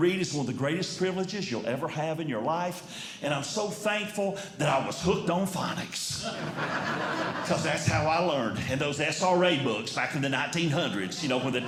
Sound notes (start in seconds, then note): 6.2 audience Laughing